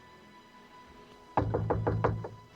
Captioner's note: knocking